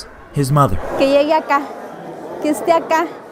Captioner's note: Spanish